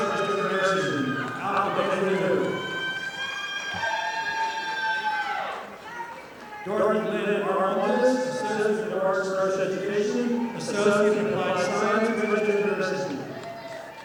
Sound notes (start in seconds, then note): 3.5 audience applauding